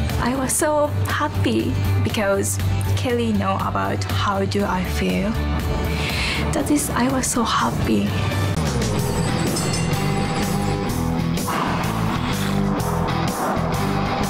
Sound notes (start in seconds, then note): 8.5 twangy country music; 8.9 train bell dings; 11.7 horse sighs